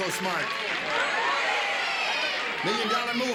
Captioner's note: audience shouting